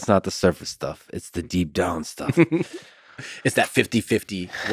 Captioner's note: Tim laughs